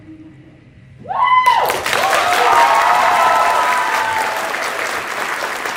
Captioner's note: applause